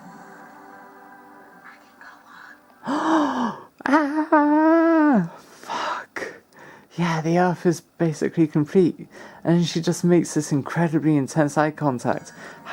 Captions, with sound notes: 'I can go home.' *gasps like a rat* AaaaaAAAAAaaahhhHHHH Fuck! Yeh, the Earth is basically complete! And she just makes this incredibly intense eye contact.